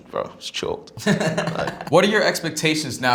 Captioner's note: laughter